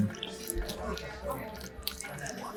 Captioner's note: chewing sound